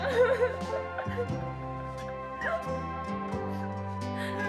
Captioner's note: laughs